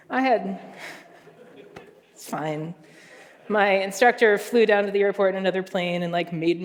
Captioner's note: laughter